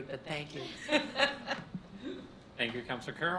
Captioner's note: laughs